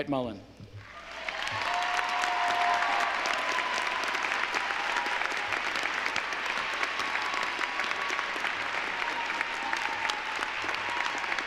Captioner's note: applause